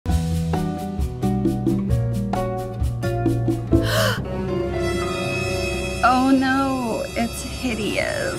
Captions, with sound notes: (upbeat music) (person gasps) (dramatic music) - Oh no, it's hideous.